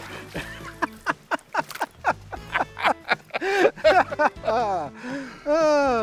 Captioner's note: laughter